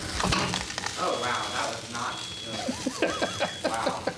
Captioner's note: fire alarm starts ringing; continues to laugh